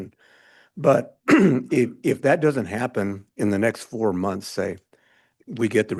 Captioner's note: clears throat